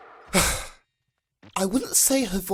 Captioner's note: sigh